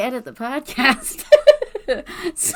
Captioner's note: laughs